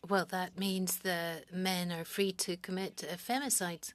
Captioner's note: speaking French